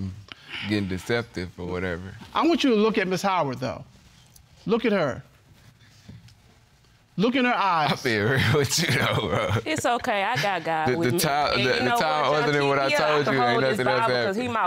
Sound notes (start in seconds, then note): 8.8 laughing